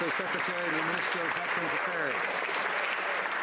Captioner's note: some Applause